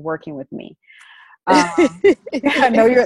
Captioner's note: both laugh